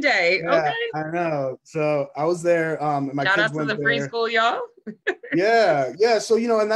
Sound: laughs

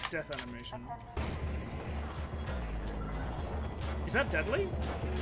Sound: sound of hyperspeed sheet metal bouncing around

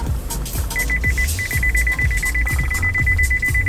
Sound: car beeping

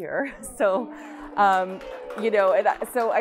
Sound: applause

